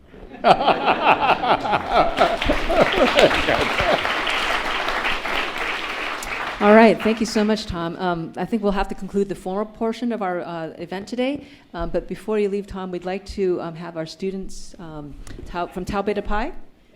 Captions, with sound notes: (audience laughs) (audience applauds) - Alright, thank you so much, Tom. I think we'll have to conclude the formal portion of our event today, but before you leave Tom, we'd like to have our students from Tau Beta Pi